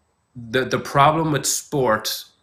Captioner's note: none